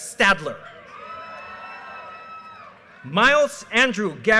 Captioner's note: audience cheers and applause